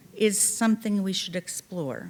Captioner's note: none